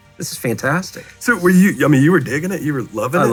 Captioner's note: laughs